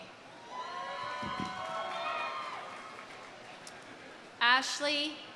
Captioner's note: audience cheering; audience applauding